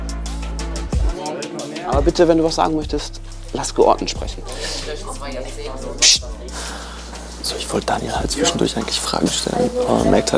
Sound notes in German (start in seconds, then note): 7.2 leise